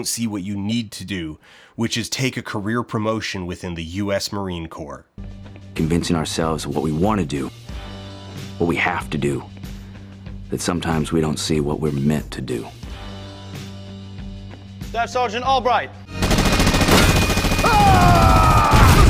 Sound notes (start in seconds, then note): 16.1 gunfire; 18.8 explosion